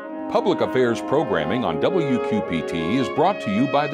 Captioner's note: voiceover